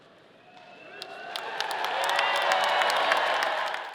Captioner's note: audience applauding